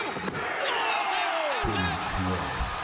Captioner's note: bell rings